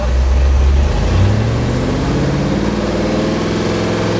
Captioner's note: engine revving